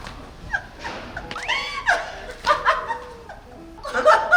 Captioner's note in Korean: 또 웃고